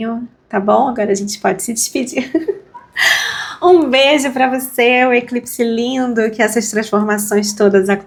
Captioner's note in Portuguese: risadas